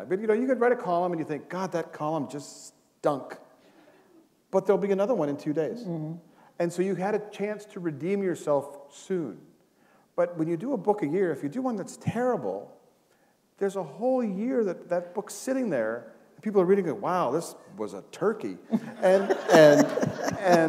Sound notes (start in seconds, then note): 18.7 laughter